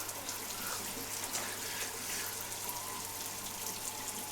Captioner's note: water falling